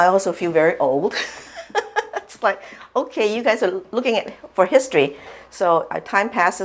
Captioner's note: laughs